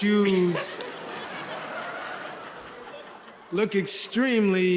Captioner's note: audience laughs